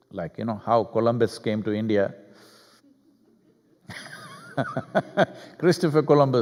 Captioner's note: laughs